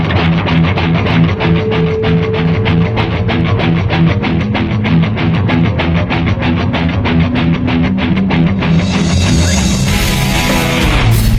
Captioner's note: laugh